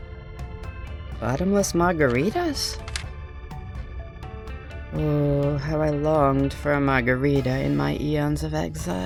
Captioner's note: paper rustles